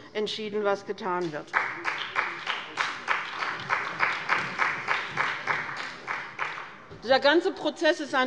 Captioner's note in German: Beifall bei dem BÜNDNIS 90/DIE GRÜNEN und der CDU